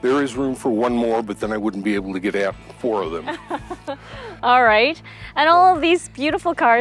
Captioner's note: laughs